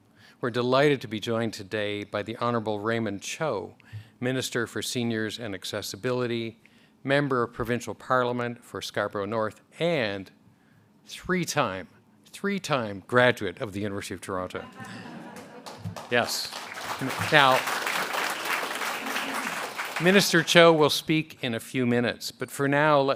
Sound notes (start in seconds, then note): 17.3 a pplause